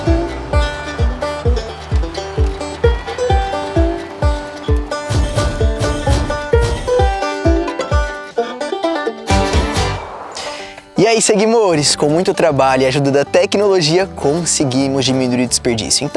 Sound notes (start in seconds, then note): 7.5 notification